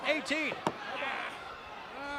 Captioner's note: crowd chatter; crowd cheering